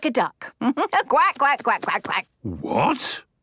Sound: quacks

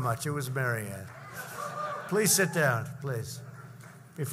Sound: laughter

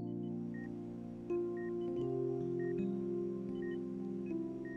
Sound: heart monitor beeps

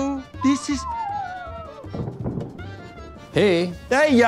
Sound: woman moans, faints

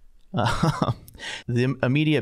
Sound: laughing

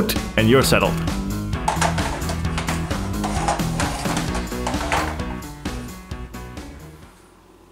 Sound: synth clatters on stand

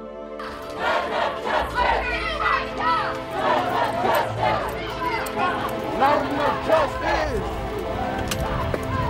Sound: crowd shouting, unrest

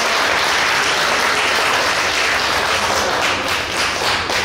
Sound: clapping

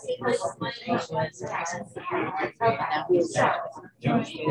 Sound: group chatting

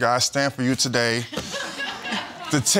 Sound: audience laughing

